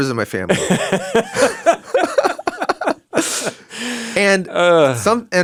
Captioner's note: laugh